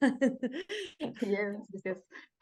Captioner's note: person laughing